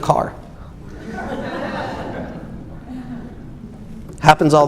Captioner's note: audience laughs